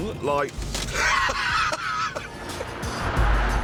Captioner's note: laughs